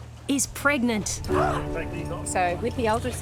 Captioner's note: gasps